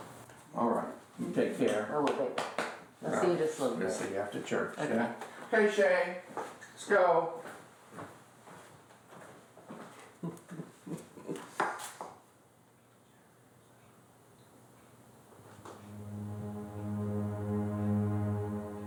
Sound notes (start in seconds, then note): 10.2 grandma chuckling; 15.4 ominous music